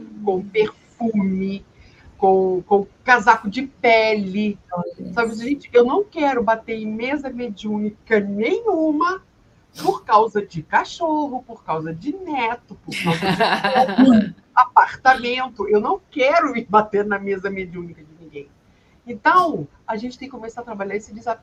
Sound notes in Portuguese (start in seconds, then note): 12.9 risadas; 13.7 limpando a garganta